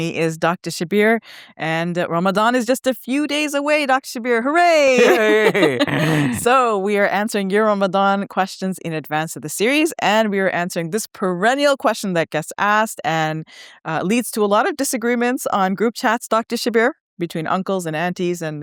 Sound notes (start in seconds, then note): 4.9 laughs; 4.9 chuckles